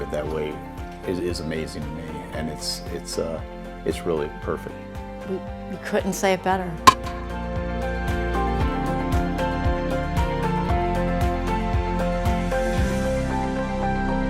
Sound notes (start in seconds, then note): 6.8 baseball bat clanking; 6.8 upbeat music